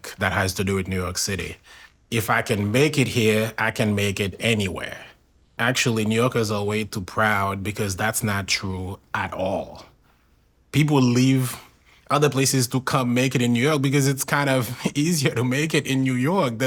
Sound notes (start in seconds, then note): none